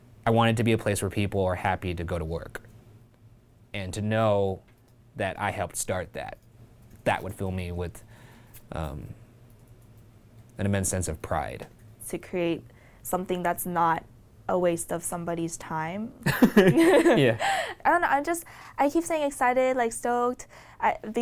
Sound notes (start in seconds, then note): 16.2 laughing